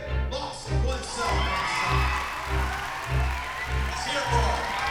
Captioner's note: applause